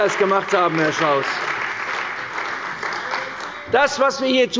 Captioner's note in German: Beifall bei der CDU und dem BÜNDNIS 90/DIE GRÜNEN